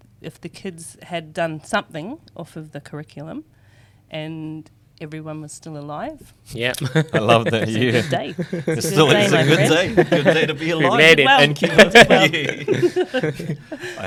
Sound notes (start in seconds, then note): 10.5 laughs; 13.3 laughs